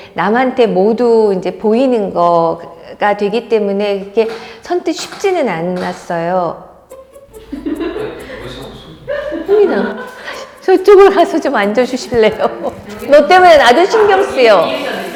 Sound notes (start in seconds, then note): 5.7 tap, bang, tap